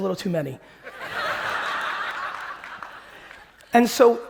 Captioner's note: audience laughing